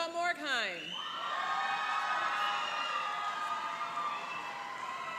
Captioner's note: cheering and applauding